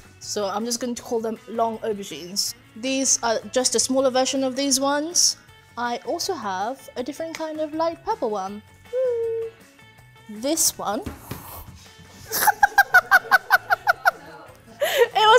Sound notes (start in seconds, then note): 11.2 aubergine thuds; 12.3 laughs